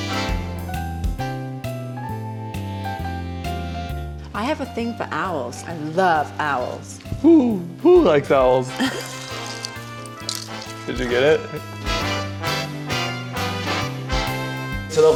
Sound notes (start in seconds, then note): 8.7 both chuckling; 11.9 bright music